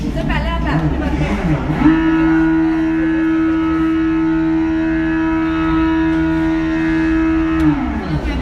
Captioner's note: bike revving